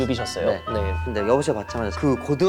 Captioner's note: on the phone call